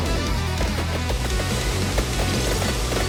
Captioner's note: satisfying pops as monsters are defeated